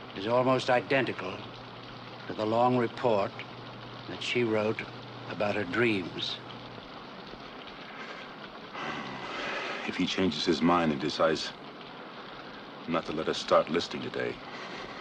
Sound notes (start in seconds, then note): 6.9 rain patters; 8.6 sighs